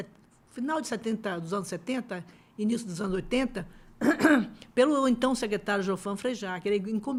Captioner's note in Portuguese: limpando a garganta